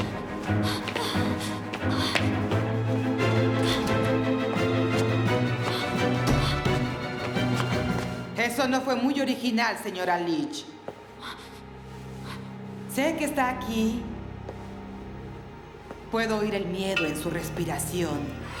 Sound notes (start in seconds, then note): 14.6 Freddie breathing heavy